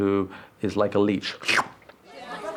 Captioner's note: slurps